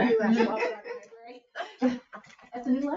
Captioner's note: all chuckling